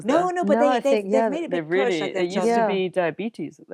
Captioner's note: all murmuring